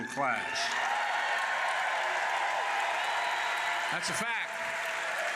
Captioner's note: applause